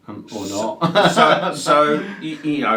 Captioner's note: laughs